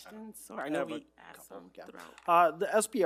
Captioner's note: group chattering